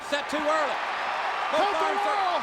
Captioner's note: crowd cheering